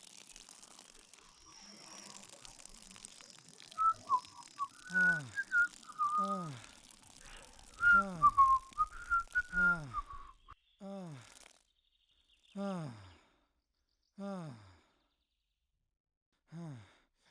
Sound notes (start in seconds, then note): 3.7 cyclist whistles; 6.7 couple groans